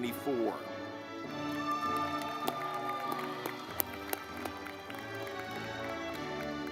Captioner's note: audience clapping